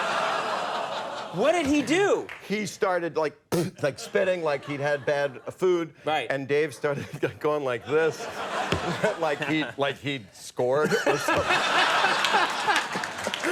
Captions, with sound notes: (audience laughs) What did he do? He started like, (Bob spits) like spitting, like he'd had bad food and Dave started going like this. (audience laughs) Like he'd scored. (all laugh)